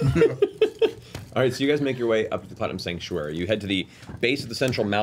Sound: laughs

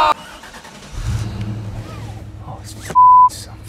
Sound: engine starts

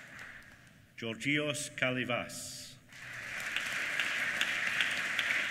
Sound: applause

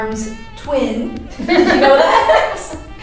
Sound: laughing

